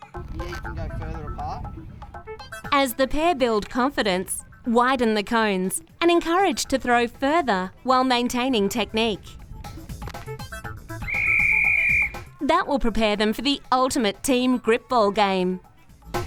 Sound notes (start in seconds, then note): 2.8 voiceover; 11.0 whistle blows; 16.0 fast-paced music